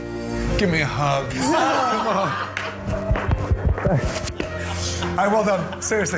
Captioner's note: everyone laughs